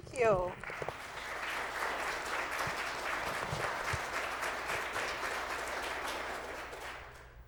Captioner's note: applause